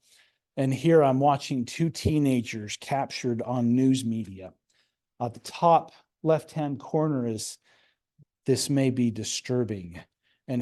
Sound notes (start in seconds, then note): none